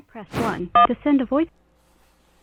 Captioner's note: phone keys beep